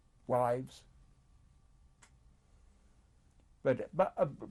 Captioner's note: pauses for 3 seconds